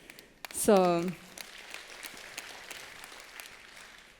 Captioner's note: applause